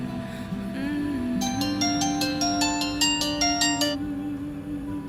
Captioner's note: phone rings